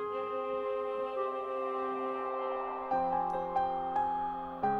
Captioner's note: wind whipping; gentle piano music